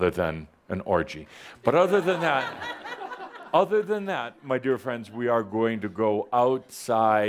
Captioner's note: laughter